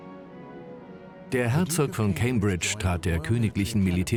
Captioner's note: voiceover